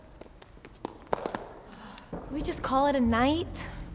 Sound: sighs

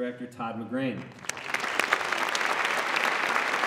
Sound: applause

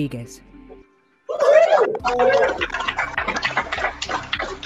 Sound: cheering

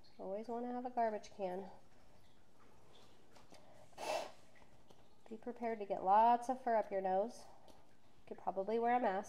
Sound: exhales

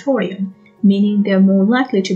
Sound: none

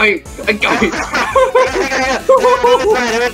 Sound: laughs

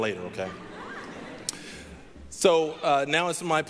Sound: audience chuckling

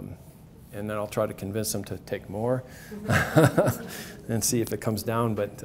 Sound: laughs

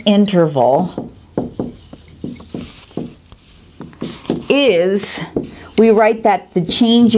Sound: sounds of marker writing

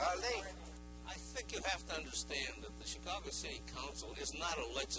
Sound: voice-over

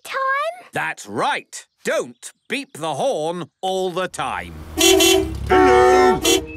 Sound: beeping

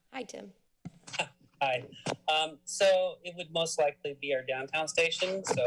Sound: laughs

